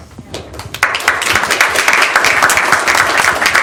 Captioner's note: applause